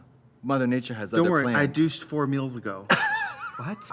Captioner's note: Katya laughs